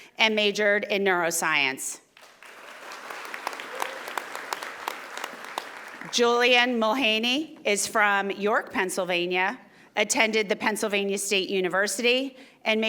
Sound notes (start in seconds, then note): 2.1 audience applauding